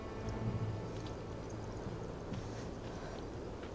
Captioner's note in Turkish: Rüzgâr sesi